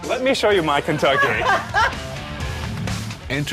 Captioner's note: laughter